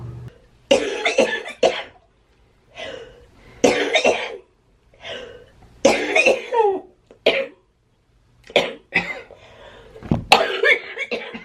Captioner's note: coughing